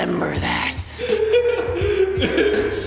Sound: laugh

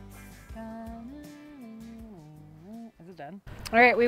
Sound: humming

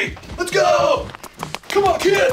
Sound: marching

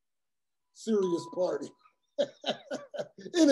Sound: laugh

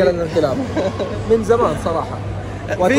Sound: laughs

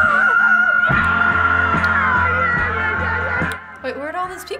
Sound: shrill vocalization

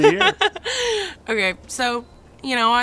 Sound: laughs

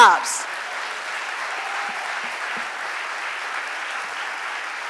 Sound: audience applauding

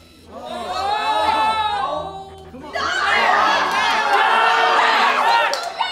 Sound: cheering/moaning

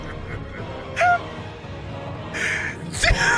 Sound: laughs more

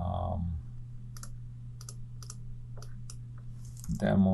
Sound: clicking

